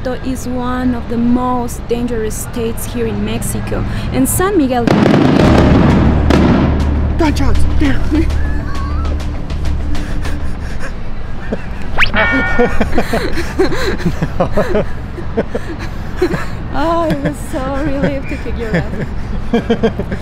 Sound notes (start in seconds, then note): 4.8 fireworks exploding; 9.3 dramatic music; 12.1 both laugh